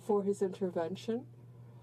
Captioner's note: speaking in french